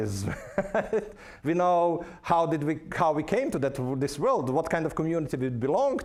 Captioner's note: laughing